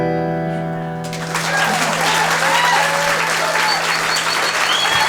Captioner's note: cheering and applause